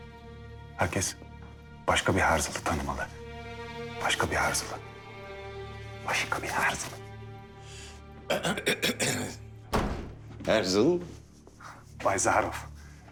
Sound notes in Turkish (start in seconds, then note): 8.3 Boğaz temizleme sesi; 9.7 Kapı kapanma sesi